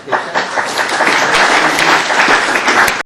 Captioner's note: applause